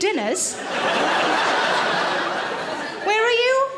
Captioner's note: audience laughs